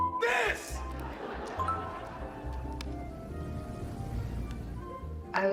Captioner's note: audience laughs